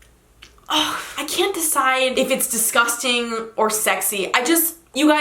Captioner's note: sighs